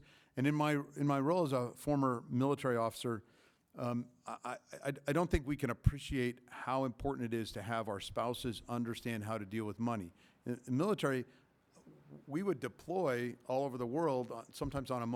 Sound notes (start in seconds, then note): none